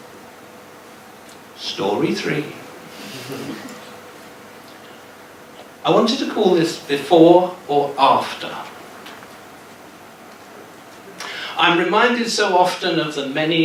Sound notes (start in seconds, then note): 3.1 giggles